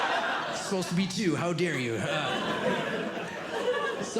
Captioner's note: audience Laughing